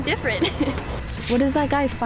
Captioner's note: laughs